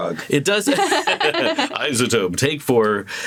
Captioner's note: laughing